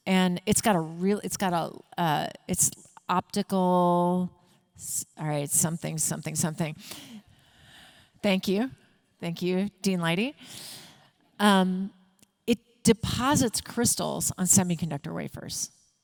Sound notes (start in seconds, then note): none